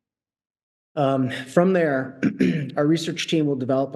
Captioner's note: clears throat